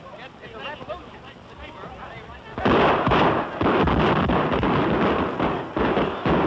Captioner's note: gunshots